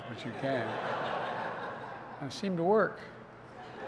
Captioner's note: laughter